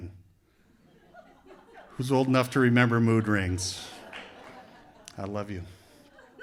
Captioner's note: laughter